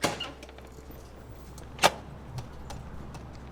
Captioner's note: door creaks